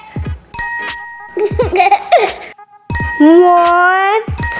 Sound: laughing

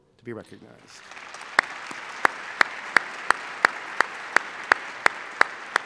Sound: applause

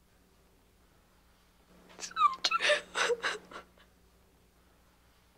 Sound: crying

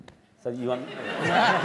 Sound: laughter

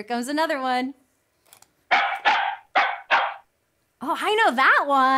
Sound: dog barks

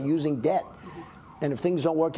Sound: 🚨🚔sirens - on street just outside

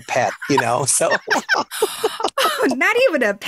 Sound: laughing

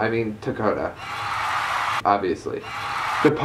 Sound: applause

